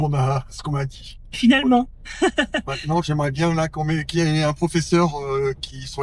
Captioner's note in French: rires